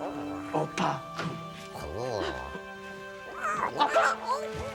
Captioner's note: Stink gasps